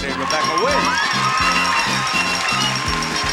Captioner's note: audience cheering; cheerful music